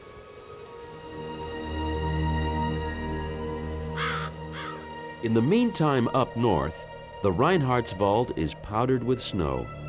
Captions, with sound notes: [crow squawking] In the meantime, up north, the Reinhardswald is powdered with snow.